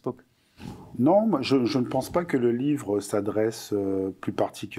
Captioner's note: non-english speech